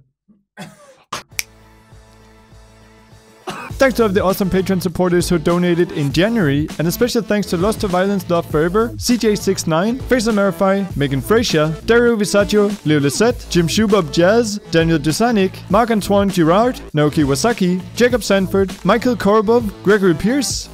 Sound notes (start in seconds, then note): 1.2 fingers snapping; 2.9 soft music